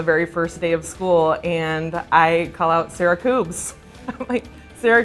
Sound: laughs

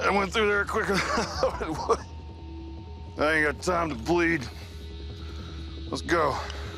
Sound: laughs

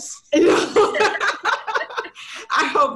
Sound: girls laughing

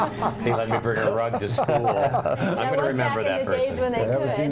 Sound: laughter

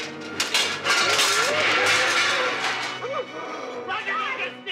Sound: metal clanging; dramatic music; Donald gasps

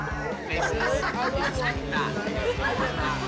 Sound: laughing; upbeat music

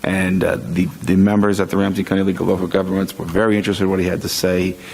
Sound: none

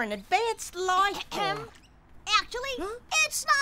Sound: Nate coughs

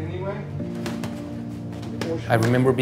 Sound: boxing gloves pounding

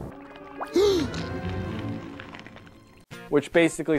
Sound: Nemo screams

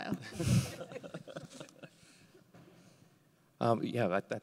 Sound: everybody laughing

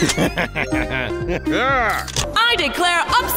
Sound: chuckling

